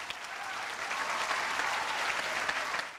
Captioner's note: audience applauds